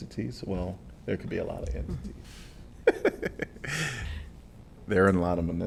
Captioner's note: laughter